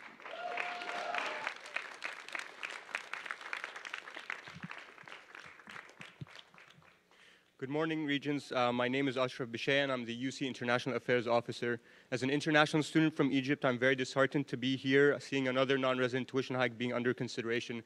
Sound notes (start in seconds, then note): 5.4 applause